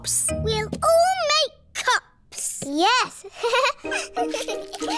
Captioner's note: giggles; all giggling